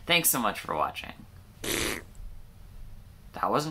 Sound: fart noise

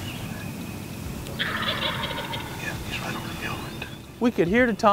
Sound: whispering

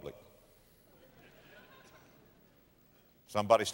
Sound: audience laughter

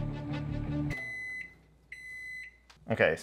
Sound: microwave beeps

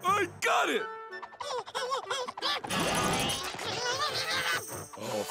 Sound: groaning

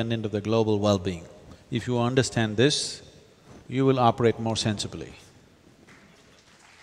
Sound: applause

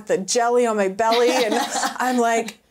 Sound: laughing

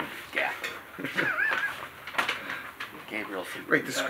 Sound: laughing

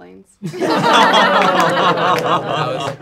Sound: laughing

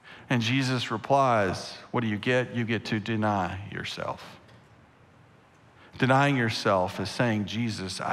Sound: none

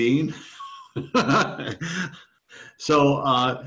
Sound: laughs

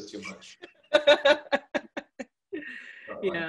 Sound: laughs

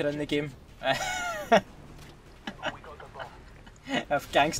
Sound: laughs

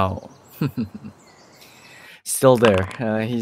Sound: sinister chuckle

